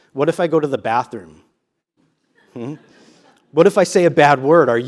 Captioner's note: laugh